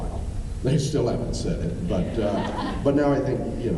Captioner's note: laughing